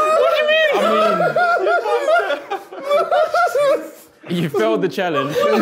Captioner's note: group laughing